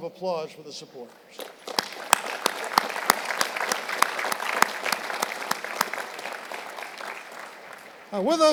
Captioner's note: applause